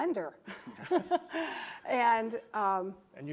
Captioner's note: laughing